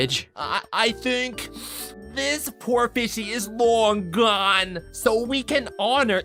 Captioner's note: sniffles